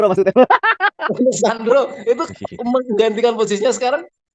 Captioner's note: laughs